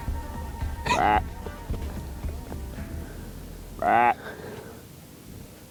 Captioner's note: deer call grunting